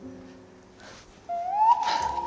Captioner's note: sudden sniffing